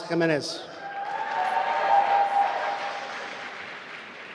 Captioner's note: applause